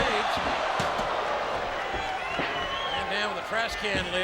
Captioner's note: crowd cheering